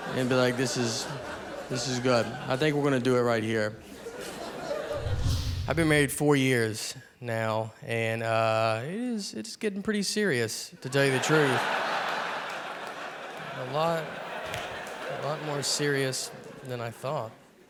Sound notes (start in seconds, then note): 11.0 audience laughing